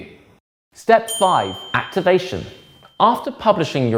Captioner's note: bell dings